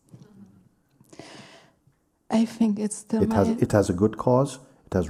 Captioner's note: laughing